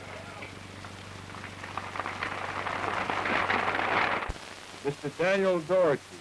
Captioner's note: applause